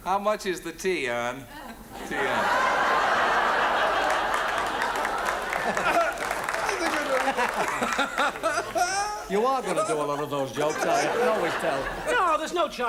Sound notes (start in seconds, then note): 2.8 audience laughs; 6.8 Terry and Morecambe laugh